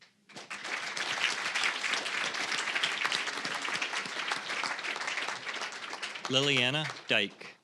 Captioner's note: applause